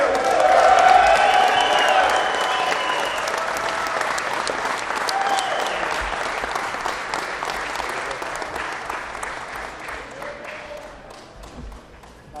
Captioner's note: applause